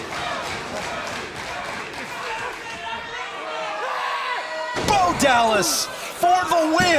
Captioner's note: crowd cheering